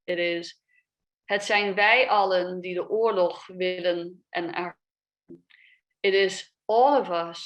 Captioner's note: speaks a foreign language